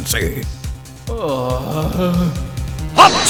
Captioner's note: low agonized groan